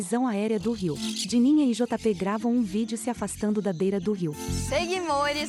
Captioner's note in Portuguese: Pássaros